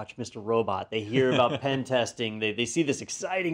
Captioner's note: laugh